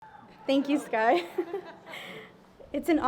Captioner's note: giggles